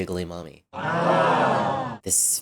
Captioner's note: crowd eughs